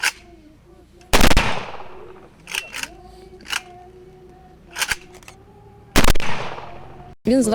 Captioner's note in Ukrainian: Лунають постріли